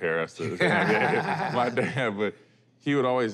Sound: laughter

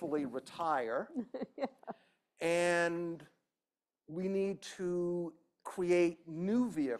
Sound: laughter

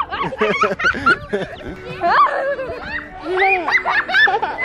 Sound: children laugh and scream

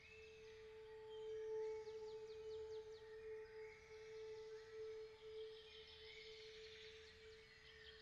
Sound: birdsong and metallic hum

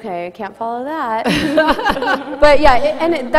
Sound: laughter

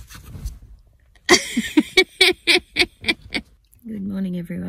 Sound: laughs

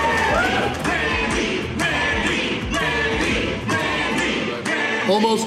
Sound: crowd cheering; crowd

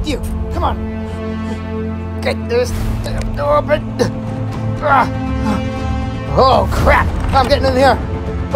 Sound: struggle sounds

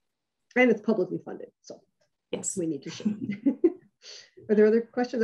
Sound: chuckles

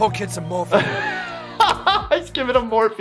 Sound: doctor laughing

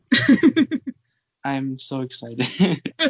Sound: laughing

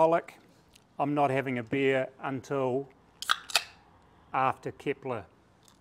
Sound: can popping

